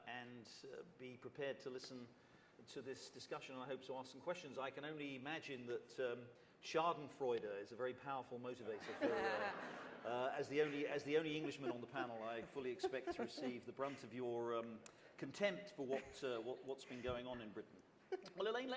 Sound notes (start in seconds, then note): 8.7 laughter